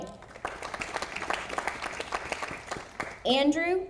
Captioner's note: audience applauding